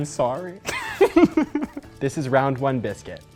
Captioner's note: laughs